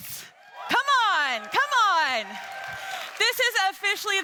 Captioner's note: attendees cheering